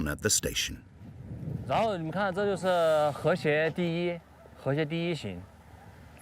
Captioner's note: speaking foreign language